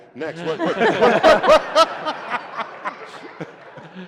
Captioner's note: laughter